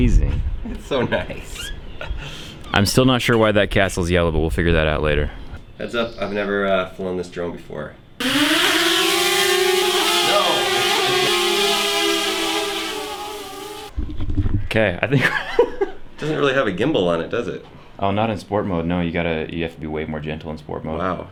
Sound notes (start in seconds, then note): 8.2 drone flying sounds